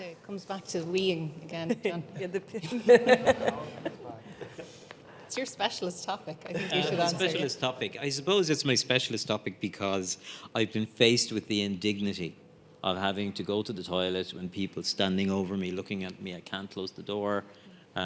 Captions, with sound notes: - Comes back to weeing again, John (panellists chuckle) It's your specialist topic. I think. - It's a specialist topic. I suppose it's my specialist topic because I've been faced with the indignity of having to go to the toilet when people standing over me looking at me, I can't close the door.